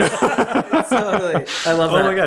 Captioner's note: all laughing